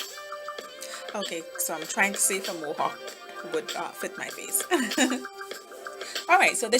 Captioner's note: laugh